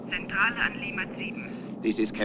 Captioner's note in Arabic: يتحدث بلغة أجنبية; ضابط يتحدث بلغة أجنبية